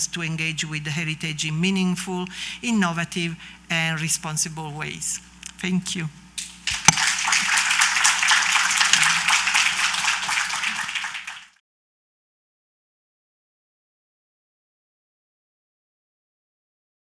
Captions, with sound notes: to engage with the heritage in meaningful, innovative and responsible ways. Thank you. [APPLAUSE]